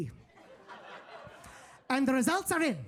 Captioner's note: audience laughing